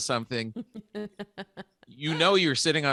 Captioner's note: chuckling